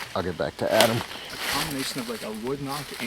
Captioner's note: leaves crunching